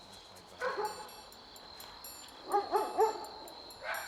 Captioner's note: curious music; dogs barking